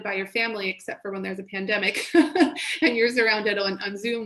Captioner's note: laughs